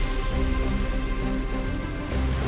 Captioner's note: propeller whirring